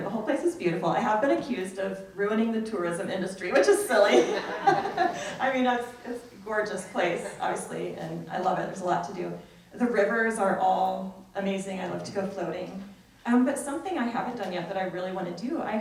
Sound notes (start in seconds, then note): 3.9 people laugh